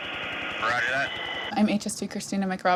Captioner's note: man Over Radio